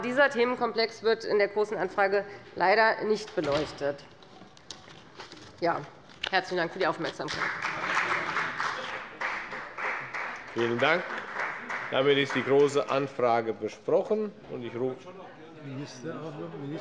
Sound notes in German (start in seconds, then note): 7.2 Beifall bei der FDP